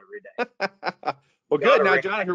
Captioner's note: laughing